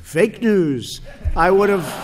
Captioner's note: laughter